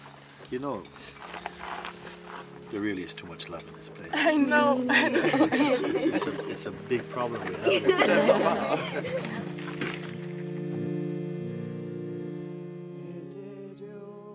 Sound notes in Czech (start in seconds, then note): 4.8 smích; 10.2 smích